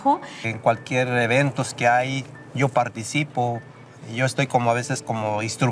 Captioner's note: speaking in Spanish